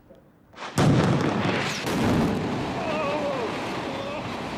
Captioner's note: screaming